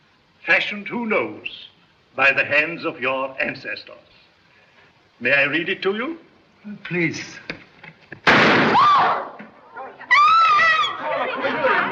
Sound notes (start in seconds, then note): 8.2 gunshot; 9.7 general outcry; 10.0 screams